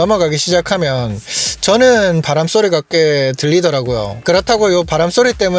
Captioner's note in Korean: 스읍